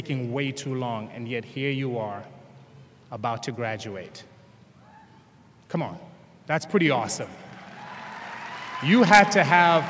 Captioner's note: applause